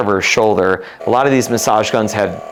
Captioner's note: massage gun whirring